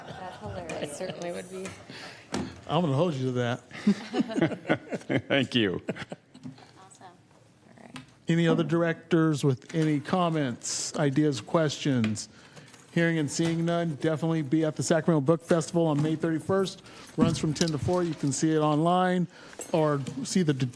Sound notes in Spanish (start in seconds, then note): 3.7 risas